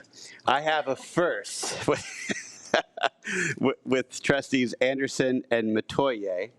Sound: laughs

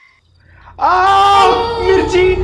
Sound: shouting

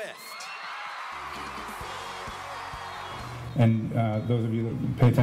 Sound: cheers

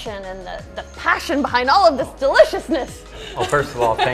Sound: laughs

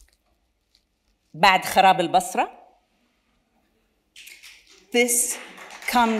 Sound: speaks in Arabic

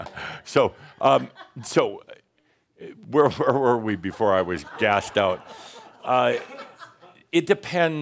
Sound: chuckling; more chuckles

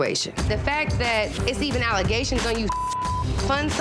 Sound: beep

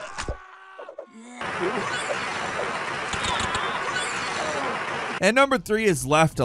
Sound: fire extinguisher swooshing

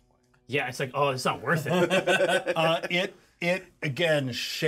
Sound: laughs

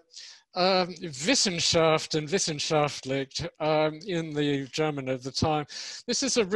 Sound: speaks in foreign language

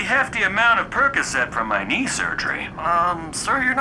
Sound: none

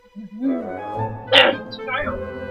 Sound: yeti noise

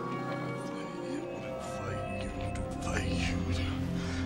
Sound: non-english speech

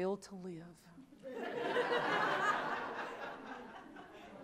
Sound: audience laughs

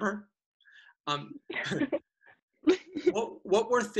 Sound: laughing

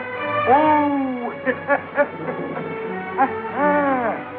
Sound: laughing

